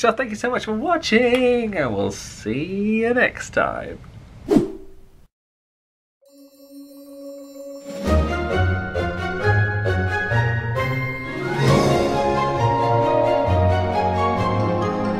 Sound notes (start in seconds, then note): 4.4 screen whooshes; 6.6 bright orchestral music